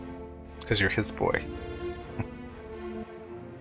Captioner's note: chuckling